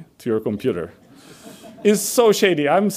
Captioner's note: audience laughs